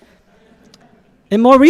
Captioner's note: audience laughing